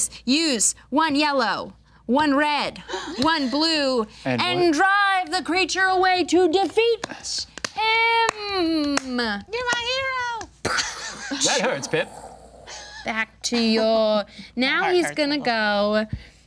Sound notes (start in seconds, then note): 8.7 quiet clapping; 10.8 imitating explosion